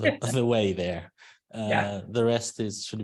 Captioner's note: chuckling